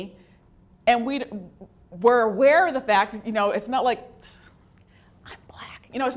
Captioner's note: whispers